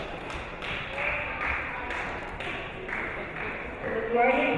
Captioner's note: spectators clapping